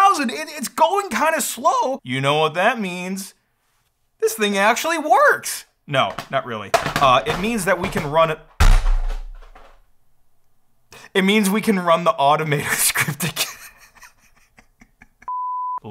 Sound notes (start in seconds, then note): 8.6 AC thuds; 12.8 laughs and cries; 15.3 beep sounds